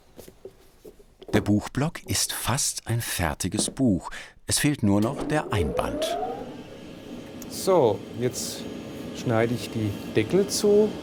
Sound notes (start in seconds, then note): 4.9 quiet whine of the machine